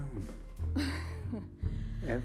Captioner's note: Joan laughing